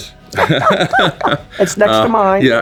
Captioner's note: both laugh